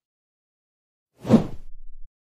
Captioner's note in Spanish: FX - Whoosh - 03